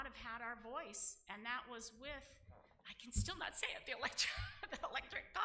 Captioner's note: laughs